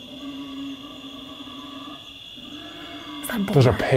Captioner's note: crickets chirping; pigs grunting